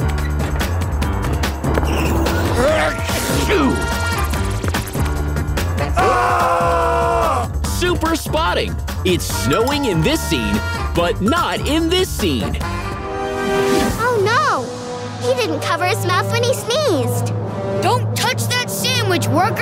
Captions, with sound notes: [sneezing] [screaming] Super spotting. It's snowing in this scene, but not in this scene. Oh, no. He didn't cover his mouth when he sneezed. Don't touch that sandwich, worker.